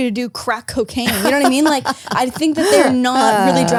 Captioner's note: laughs